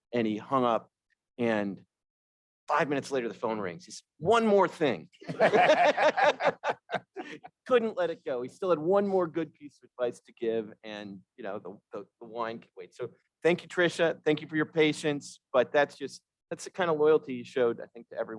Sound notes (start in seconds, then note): 5.2 all laughing